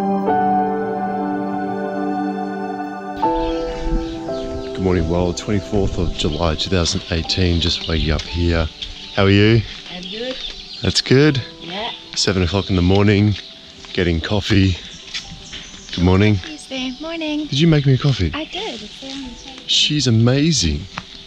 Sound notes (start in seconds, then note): 0.0 relaxing piano music; 3.4 birds chirping